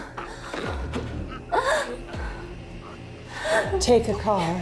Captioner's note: Tyler choking; tense suspenseful music; chair scoots across floor